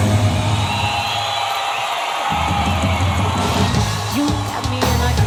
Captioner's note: audience cheering